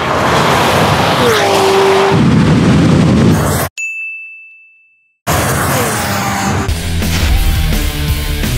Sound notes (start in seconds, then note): 3.8 bell Chimes; 6.6 rock Music Plays